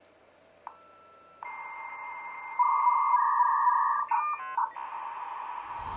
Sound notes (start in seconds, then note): 1.4 old modem noises